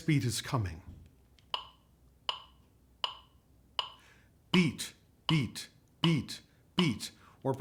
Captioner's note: metronome clicks